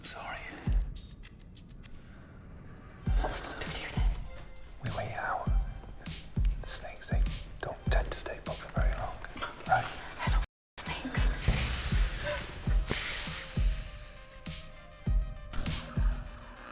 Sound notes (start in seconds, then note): 1.1 dramatic music; 10.8 snake hissing; 13.4 dramatic music